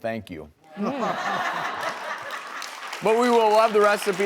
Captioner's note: applause